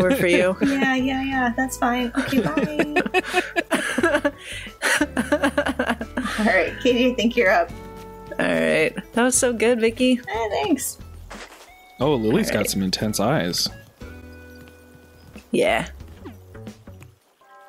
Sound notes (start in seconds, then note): 4.2 laughter